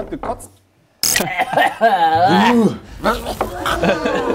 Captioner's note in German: Würgelaute